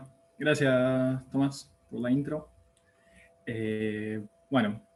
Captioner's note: click